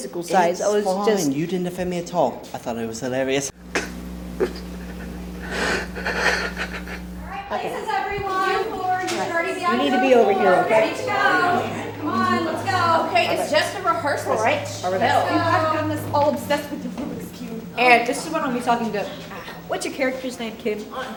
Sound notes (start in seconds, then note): 3.6 even harder crying